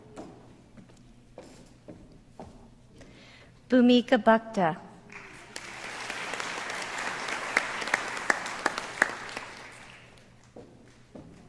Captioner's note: applause